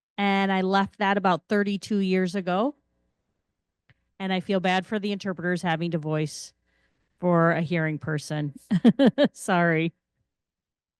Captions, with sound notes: and I left that about 32 years ago, and I feel bad for the interpreters having to voice for a hearing person (chuckles). Sorry.